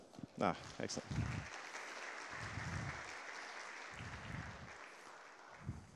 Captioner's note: applause